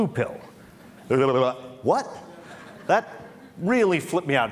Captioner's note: Laughter; 笑聲